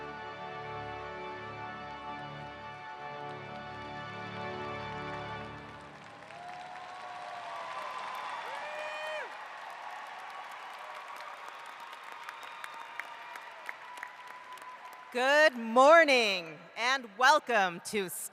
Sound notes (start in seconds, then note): 7.3 cheering